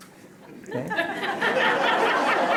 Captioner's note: laughter